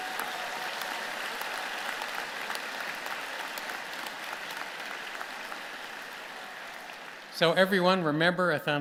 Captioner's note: applause